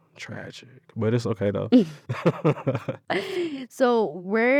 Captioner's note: laughs